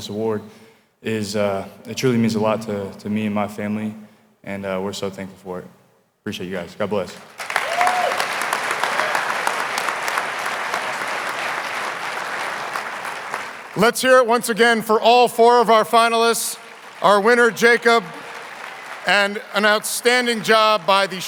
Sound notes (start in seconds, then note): 7.1 audience applauding